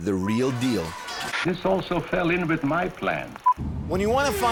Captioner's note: beeping